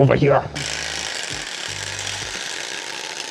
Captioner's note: drilling